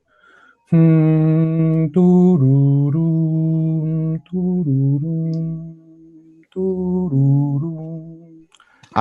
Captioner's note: hums